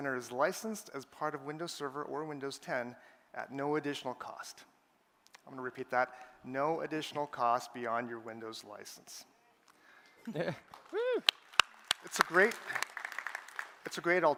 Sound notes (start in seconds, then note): 10.6 applause